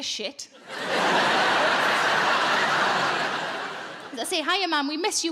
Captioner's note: audience laughing